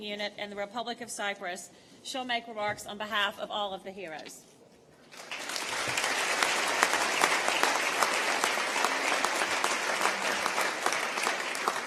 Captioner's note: applause